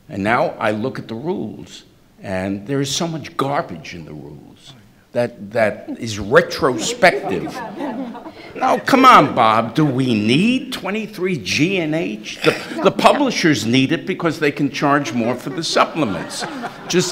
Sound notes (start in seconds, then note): 7.3 everyone murmuring; 16.8 everyone laughing